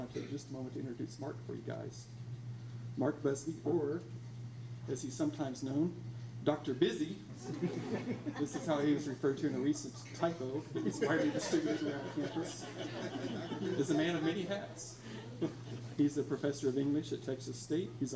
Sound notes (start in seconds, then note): 7.6 laughs; 9.9 laughter drowns out conversation